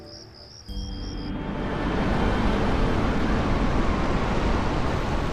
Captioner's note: waves crashing